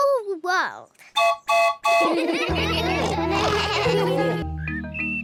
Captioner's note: toots horn; all laugh